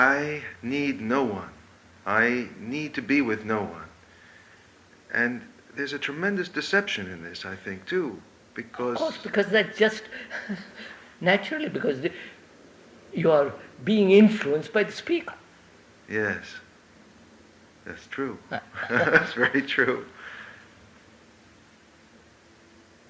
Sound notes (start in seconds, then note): 18.4 laughs